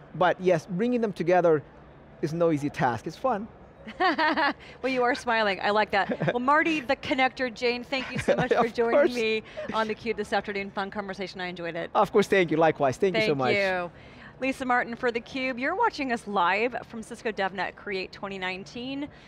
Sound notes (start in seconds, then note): 3.8 laughs; 8.0 laughs